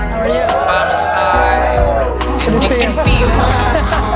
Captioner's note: cheering